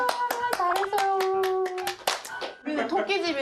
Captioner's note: clap, clap